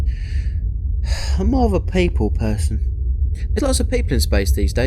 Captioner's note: sigh